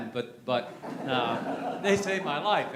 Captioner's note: laughter